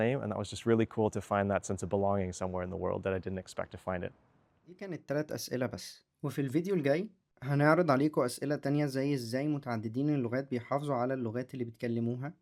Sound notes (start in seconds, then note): 4.7 in Egyptian Arabic